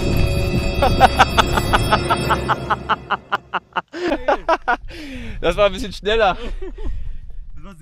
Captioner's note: laugh